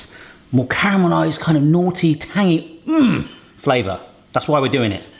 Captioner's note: grunts